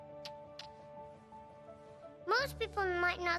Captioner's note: kissing